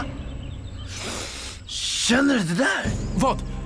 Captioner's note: sniffs